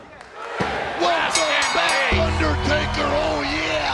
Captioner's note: bell rings